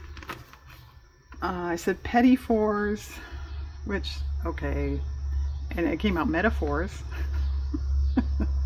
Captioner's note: laughs